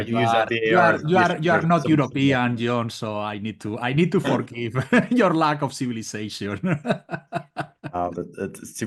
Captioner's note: laugh